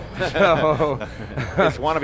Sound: laughing

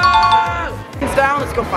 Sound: winning bell

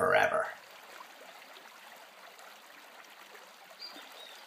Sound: flowing water

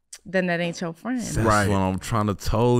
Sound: sucks teeth

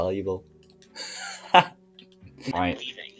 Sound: wheeze

